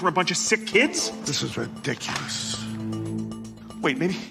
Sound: newspaper drops

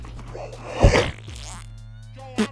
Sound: splat

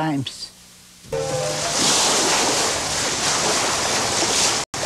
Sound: sea crashing

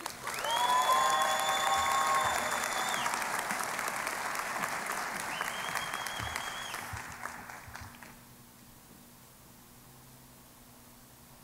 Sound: cheering and Applause

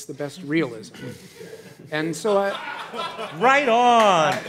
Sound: audience laughing and applauding

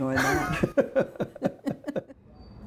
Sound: laughter

